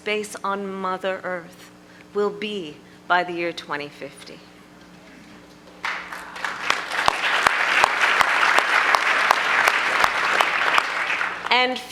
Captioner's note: applause